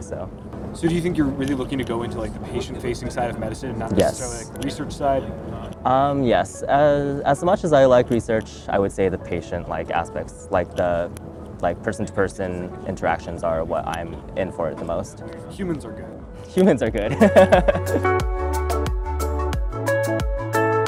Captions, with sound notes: - So do you think you're really looking to go into the patient facing side of medicine - Yes. - And not necessarily the research side? - Yes. As much as I like research, I would say the patient aspects, like person to person interactions are what I'm in for it the most. - Humans are good. - Humans are good (laughs) (upbeat music)